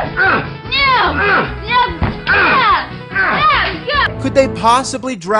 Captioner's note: grunting